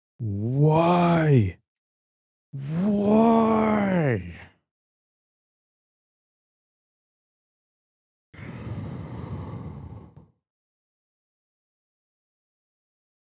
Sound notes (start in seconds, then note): 8.4 deep Exhale